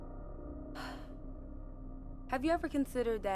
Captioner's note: sighs